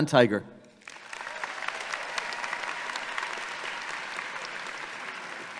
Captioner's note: audience clapping